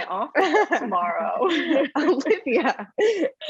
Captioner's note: laughs